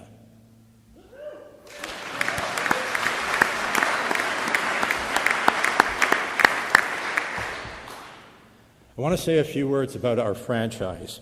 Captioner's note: applause